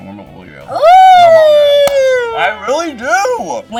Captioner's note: cheering